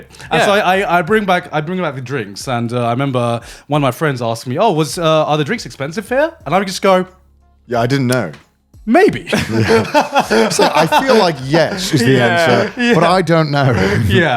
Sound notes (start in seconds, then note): 9.2 laughs